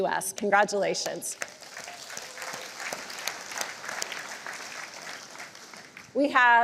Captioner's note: applause